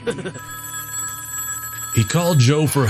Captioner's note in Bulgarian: звънене на телефон